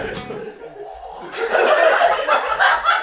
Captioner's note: whew